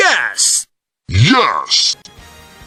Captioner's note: in deeper pitch